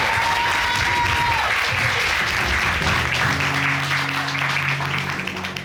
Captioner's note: audience applauding